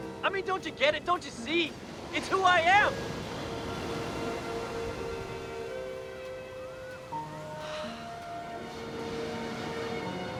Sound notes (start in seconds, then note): 7.5 sighs